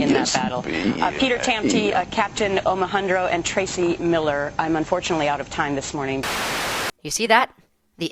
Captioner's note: static